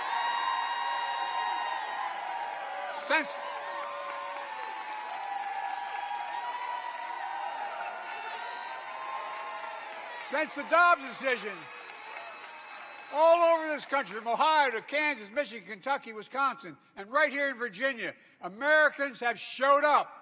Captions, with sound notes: [APPLAUSE] but their about to find out. They are about to find out. Since -- since. [APPLAUSE]. Since the Dobb's decision, all over this country, from